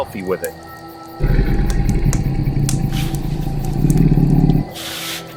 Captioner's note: animal growling